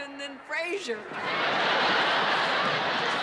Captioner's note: laughter